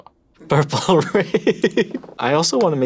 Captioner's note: laughs